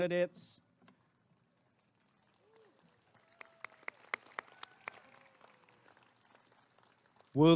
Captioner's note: applause and cheering